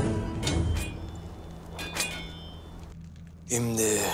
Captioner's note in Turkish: Kılıç sesleri